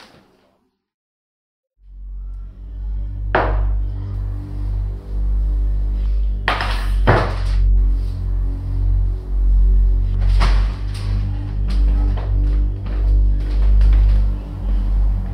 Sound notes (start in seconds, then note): 3.1 foreboding music; 3.1 glass smacking